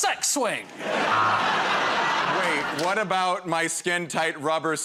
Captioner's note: laughter